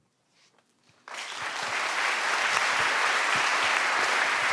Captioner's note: audience applauding